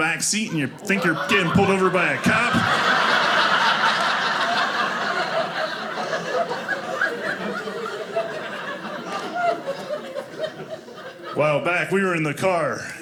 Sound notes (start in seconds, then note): 2.7 audience laughing